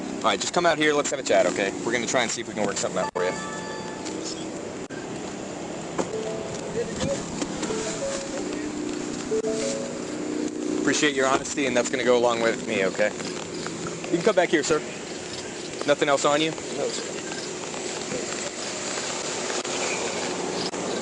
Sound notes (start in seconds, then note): 3.5 alarm dinging